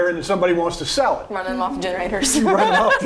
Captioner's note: laughing